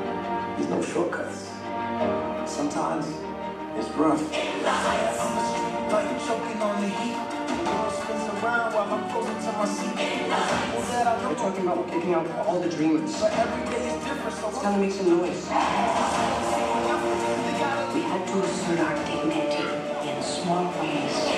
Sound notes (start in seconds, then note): 15.4 cheering